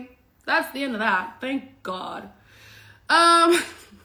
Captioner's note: laughs